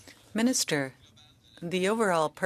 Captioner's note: speaking French